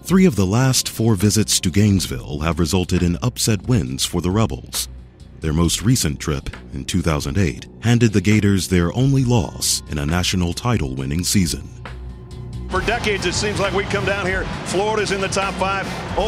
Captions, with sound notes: - (Voiceover) Three of the last four visits to Gainesville have resulted in upset wins for the Rebels. Their most recent trip, in 2008, handed the Gators their only loss, in a national title-winning season. - (Voiceover) For decades it seems like we come down here, Florida's in the Top 5,